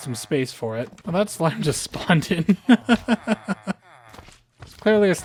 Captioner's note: laughter